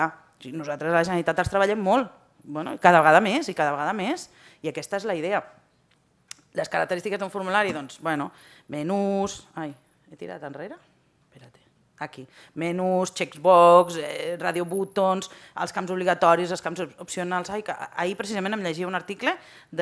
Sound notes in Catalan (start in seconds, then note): none